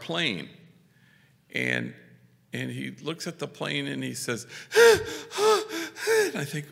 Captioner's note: labored breathing